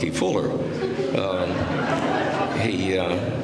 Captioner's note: laughter